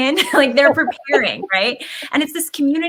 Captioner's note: laughs